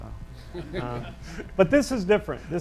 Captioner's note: audience laughs